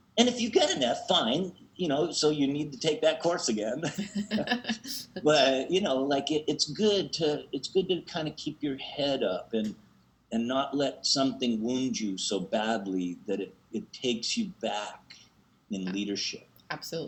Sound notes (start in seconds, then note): 3.8 laughs